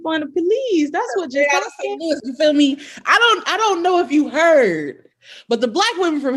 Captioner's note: laughter